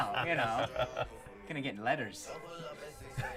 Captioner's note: laughing